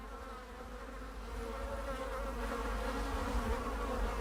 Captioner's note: flies buzzing